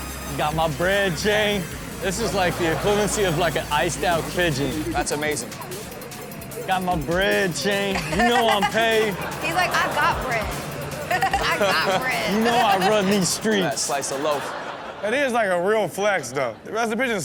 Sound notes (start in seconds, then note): 6.3 background chatter; 8.9 crowd laughs; 11.6 laughs; 12.4 crowd laughs